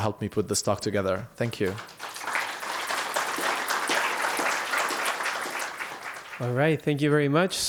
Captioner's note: applause